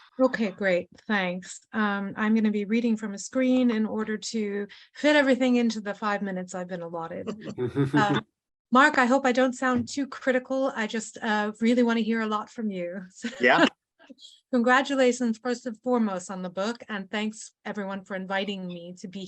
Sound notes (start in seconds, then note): 7.2 chuckle; 13.4 chuckles